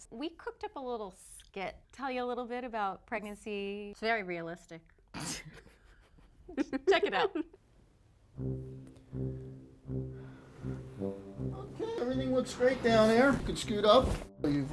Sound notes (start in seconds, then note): 5.4 laughing; 8.4 ominous music